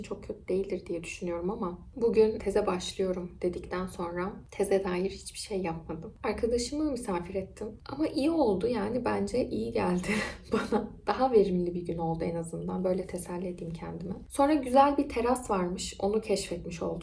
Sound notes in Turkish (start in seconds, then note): 10.4 kahkaha